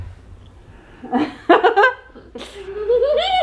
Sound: children laugh; laughs

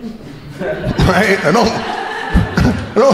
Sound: crowd laughing

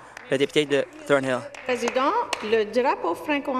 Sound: some applause

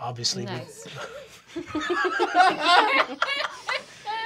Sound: laughter

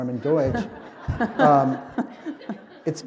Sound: laughter

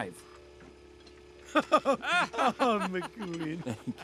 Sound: laughter

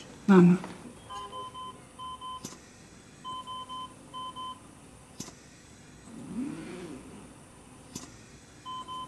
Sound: mechanical Ventilation beeping

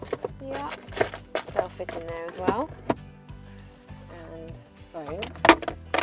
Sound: rummaging

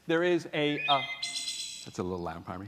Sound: bird twirping

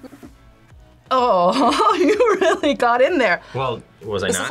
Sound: laughs

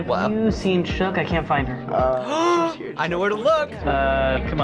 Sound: gasps

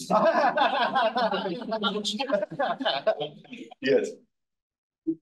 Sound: all laughing

